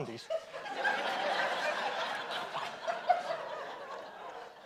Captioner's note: audience laughs